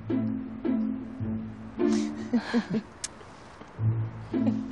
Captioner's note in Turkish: Gülüşme sesleri duyulur